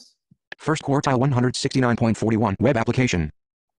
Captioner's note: voiceover